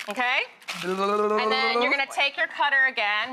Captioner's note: Rachael makes bubbling noise